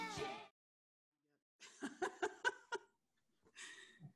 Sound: music fades out; laughter

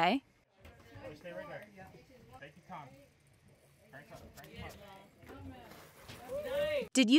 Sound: cheering

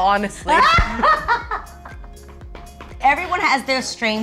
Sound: laughing

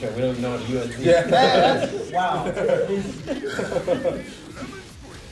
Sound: laugh

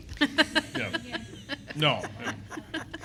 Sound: laughter

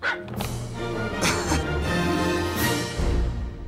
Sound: chuckles

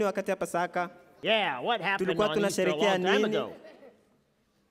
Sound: speaking foreign language

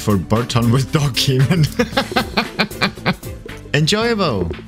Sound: laughing

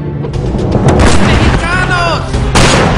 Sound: gun fires

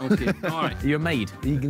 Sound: laughter

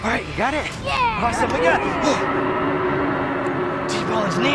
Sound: dinosaur roaring

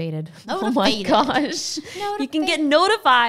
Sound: laughing

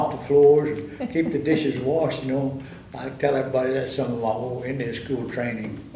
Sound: laughter

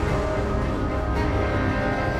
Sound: none

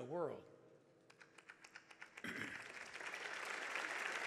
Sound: audience applauds

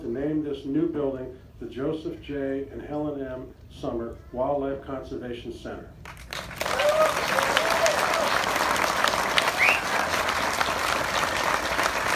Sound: applause

